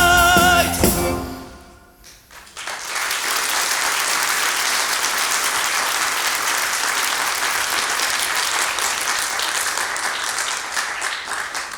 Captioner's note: MUSIC out. Applause